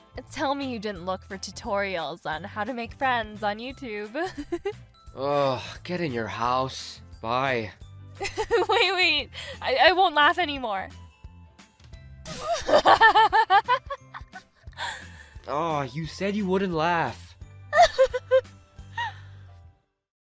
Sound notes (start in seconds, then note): 4.2 amanda laughs; 12.3 amanda laughs; 17.7 amanda continues laughing